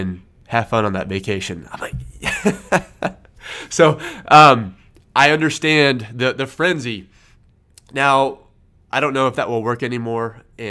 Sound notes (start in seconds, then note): 1.8 laughs